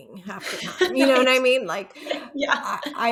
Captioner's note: chuckling